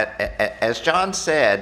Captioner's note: laughter